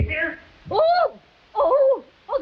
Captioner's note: Veta shreiks